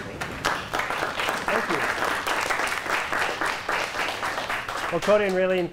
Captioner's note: applause